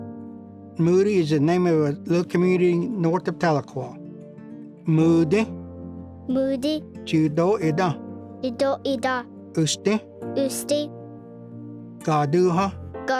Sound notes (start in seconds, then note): 4.2 Repeats first word in Cherokee; 7.9 repeats second word in Cherokee; 10.1 repeats third word in Cherokee; 12.4 repeats fourth word in Cherokee